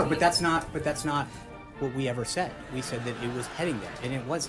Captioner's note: raucous laugh track